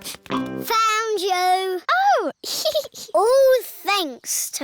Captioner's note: giggles